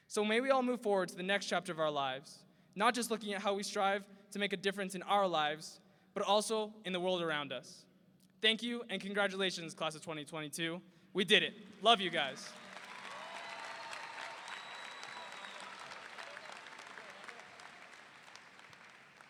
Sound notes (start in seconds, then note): 11.7 audience applauding; 11.8 audience cheering